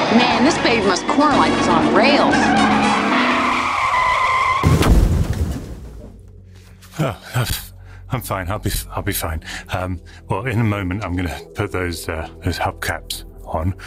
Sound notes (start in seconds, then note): 2.6 tyre screech; 4.4 crash